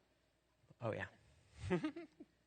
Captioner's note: laughter